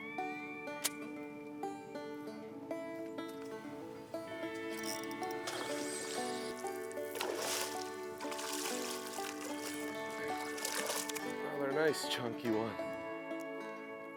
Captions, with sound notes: (reel whizzing) (water splashing) Another nice chunky one.